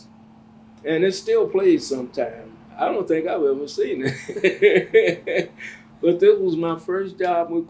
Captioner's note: laughs